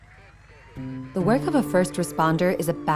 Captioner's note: voiceover